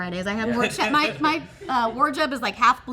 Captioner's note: everyone laughing